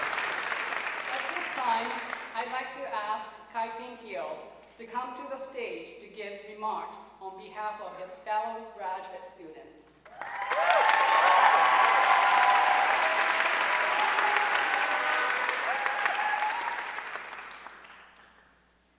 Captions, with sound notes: At this time, I'd like to ask Khai Phyn Teo to come to the stage to give remarks on behalf of his fellow graduate students. (audience cheering and applauding)